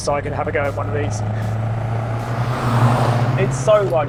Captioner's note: car roaring